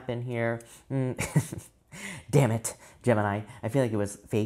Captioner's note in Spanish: se ríe